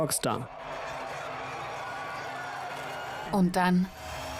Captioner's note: crowd cheering